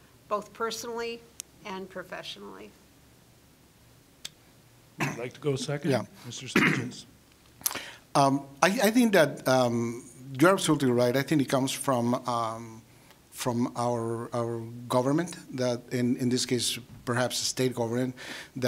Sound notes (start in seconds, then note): 6.5 clearing throat